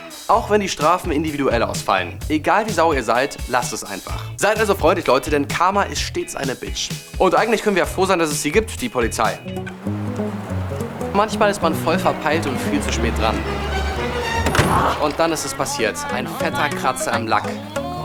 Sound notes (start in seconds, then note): 14.3 Knall